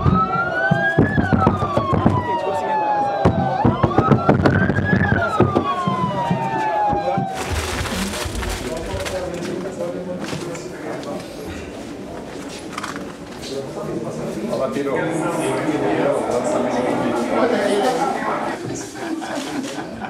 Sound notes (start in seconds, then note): 0.0 siren blaring; 14.6 voices in background